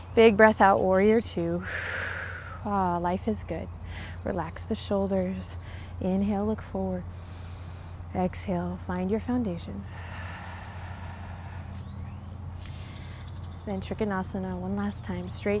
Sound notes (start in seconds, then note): 1.6 blows out breath; 7.2 takes deep breath; 9.9 blows out breath